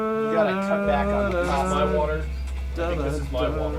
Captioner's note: theme; theme